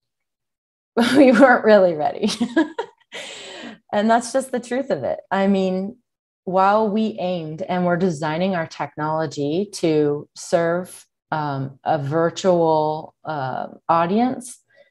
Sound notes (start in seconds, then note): 2.2 chuckles